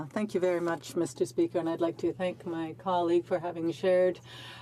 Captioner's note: speaking French